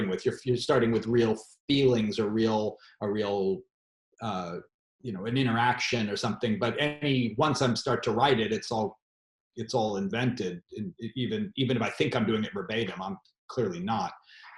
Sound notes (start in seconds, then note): none